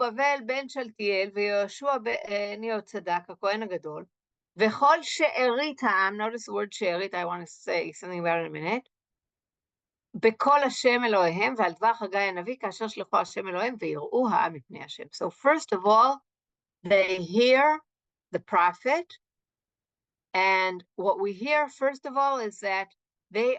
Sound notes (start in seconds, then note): 0.0 Hebrew; 10.0 Hebrew